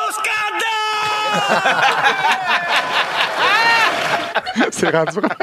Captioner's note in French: rires